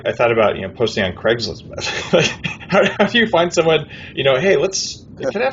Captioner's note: laughs